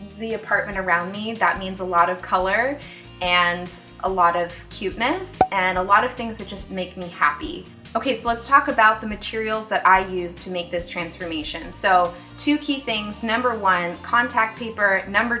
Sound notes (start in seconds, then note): 5.4 cork pop